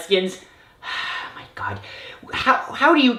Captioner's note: sighs